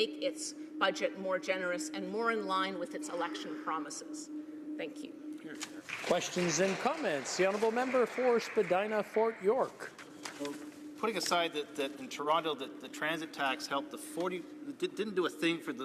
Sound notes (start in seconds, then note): 8.7 applause